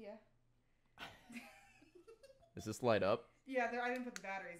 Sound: laughs

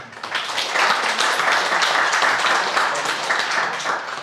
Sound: crowd applauding

